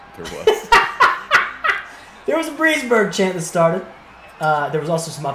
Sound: laugh

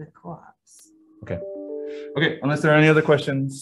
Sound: computer tone dings

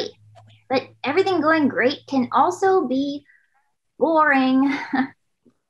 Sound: chuckles

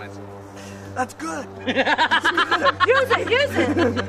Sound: laughter

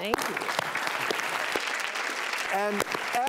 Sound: audience applauding

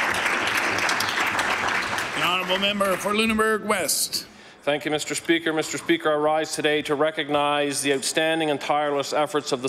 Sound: applause

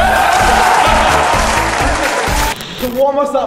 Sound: cheers; group cheering; clapping

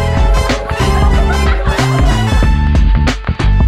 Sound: laughter

